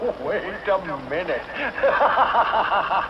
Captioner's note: laughs